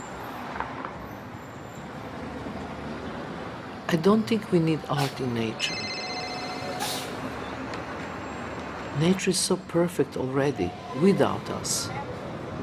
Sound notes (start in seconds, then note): 5.6 cell ringing